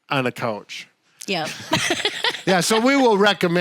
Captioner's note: laughs